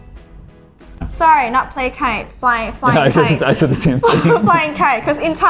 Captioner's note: laughing